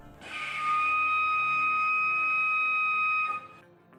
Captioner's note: walrus whistling